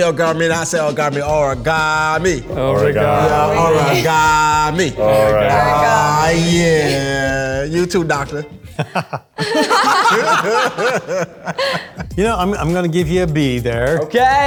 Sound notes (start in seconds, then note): 8.6 group laughs; 8.7 laughs